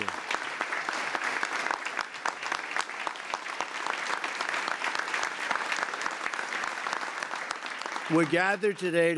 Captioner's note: applause